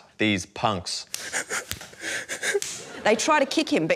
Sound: whimpers

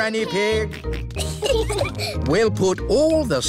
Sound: peppa and george giggling

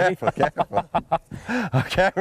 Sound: laughter

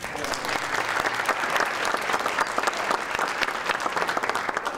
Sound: audience applauding

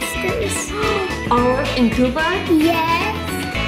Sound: gasp

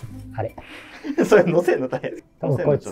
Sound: laughing

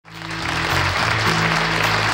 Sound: audience applauding

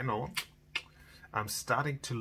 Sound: clicks his tongue

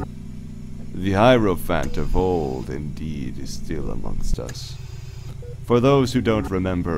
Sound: mechanical ambiance

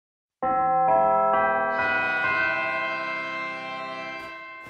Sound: bell chimes

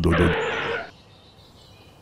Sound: engine rumble; skid

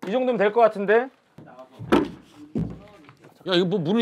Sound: thumping

